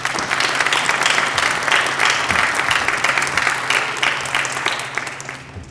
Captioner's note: applause